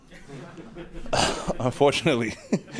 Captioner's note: laughing